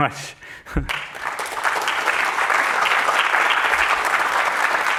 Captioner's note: applause